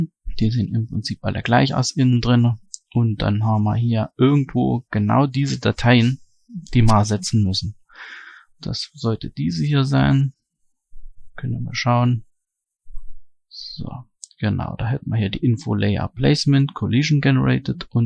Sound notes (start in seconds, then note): 7.8 strong breathing